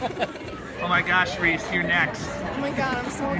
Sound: laughing

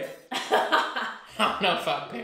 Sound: laughter

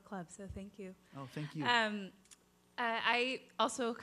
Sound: voiceover

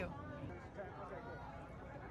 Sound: crowd chattering overlaps

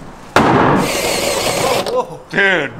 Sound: banging; drilling

